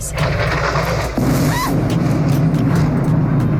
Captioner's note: loud explosion